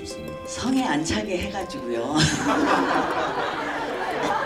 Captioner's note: laughs